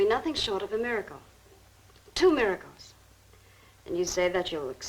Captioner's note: none